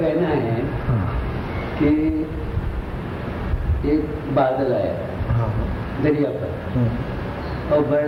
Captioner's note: discussion in Hindi